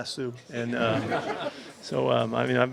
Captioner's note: reporters laugh